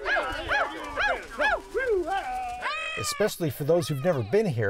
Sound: whooping

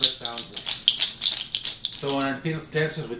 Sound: deer toes clacking

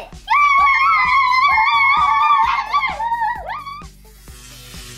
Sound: kids cheering

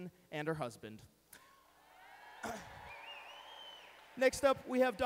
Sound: cheering

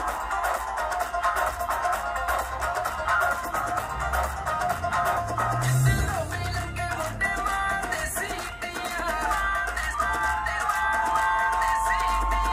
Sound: applause

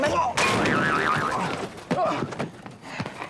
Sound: thud

